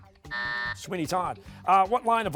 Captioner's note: buzzer